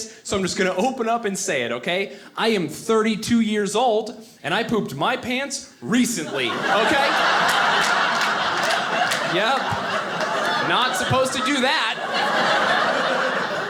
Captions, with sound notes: so I'm just gonna open up and say it, okay. I am 32-years-old and I pooped my pants recently, okay. (audience laughing) Yep, not supposed to do that! (audience laughing)